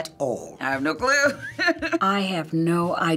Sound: laughing

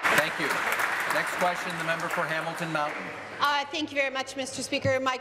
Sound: applause

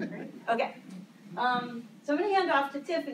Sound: laughter

